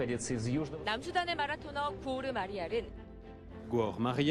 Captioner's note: speaks Russian; speaks Korean; speaks French